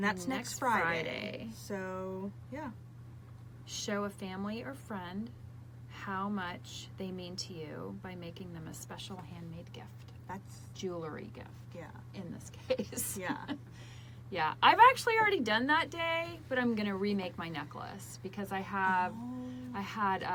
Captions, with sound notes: - That's next Friday. - Next Friday. - So, yeah. - Show a family or friend how much they mean to you by making them a special handmade gift. - That's-- - Jewelry gift. - Yeah. - In this case (laughs) - Yeah. - Yeah. I've actually already done that day but I'm gonna remake my necklace because I had - Oh!